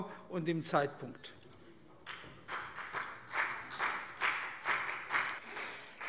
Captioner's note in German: Vereinzelter Beifall CDU